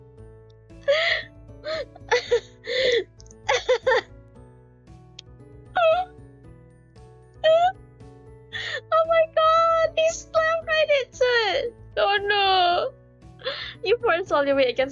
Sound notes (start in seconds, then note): 0.7 yup still laughing